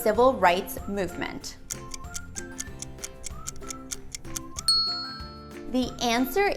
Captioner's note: ding; timer ticking